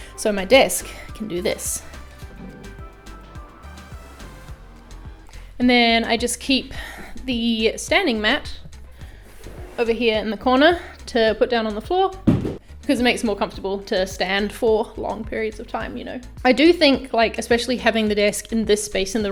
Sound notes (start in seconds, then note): 3.2 desk adjusting up; 12.2 mat throwing